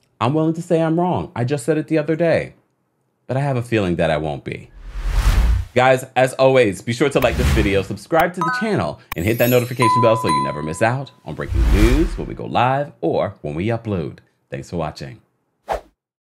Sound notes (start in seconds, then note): 4.7 swooshing; 9.1 dinging; 9.2 ringing